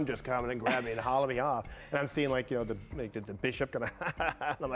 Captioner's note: laughter